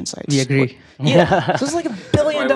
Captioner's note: laughter